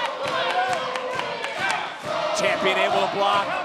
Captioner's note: audience cheering